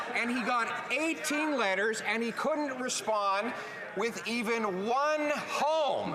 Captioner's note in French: voix de l'interprète